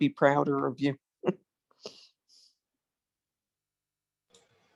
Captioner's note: chuckles